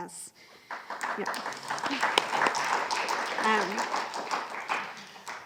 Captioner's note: audience applauding